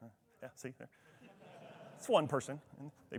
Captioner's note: attendees laughing